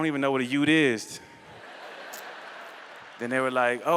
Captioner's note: laughter